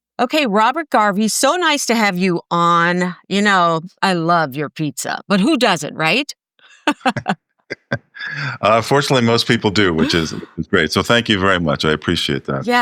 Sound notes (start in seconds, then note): 7.7 laugh